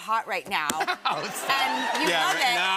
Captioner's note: laughter